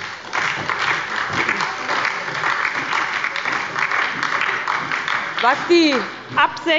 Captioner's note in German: Beifall bei der SPD und der LINKEN